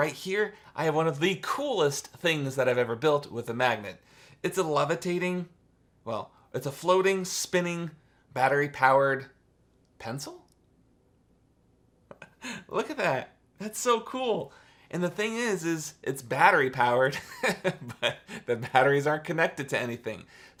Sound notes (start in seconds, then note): 12.1 chuckles; 17.2 chuckles